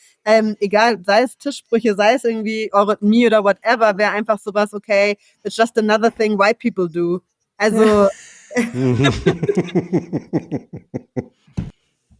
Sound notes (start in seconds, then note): 7.7 laugh